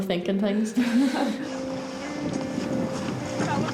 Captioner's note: chuckles; gentle music